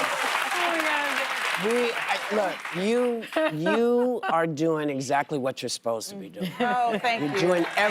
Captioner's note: laughter and applause